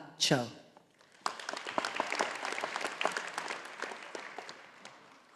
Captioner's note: audience applauding